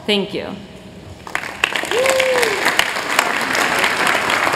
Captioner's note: applause